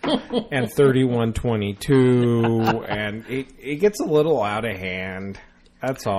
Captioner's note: DJ laughs